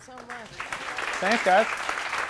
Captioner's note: audience applauding